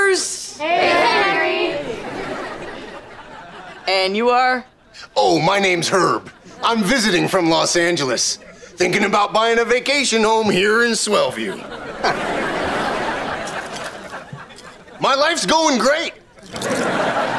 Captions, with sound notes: Hey, Henry! And you are? Oh, my name's Herb. I'm visiting from Los Angeles. Thinking about buying a vacation home here in Swellview. [chuckles] My life's going great!